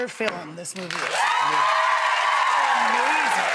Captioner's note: audience cheering and applauding